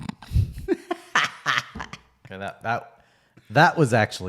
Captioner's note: laughing